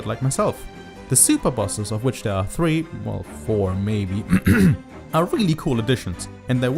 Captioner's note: clears throat